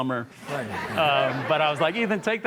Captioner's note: audience laughs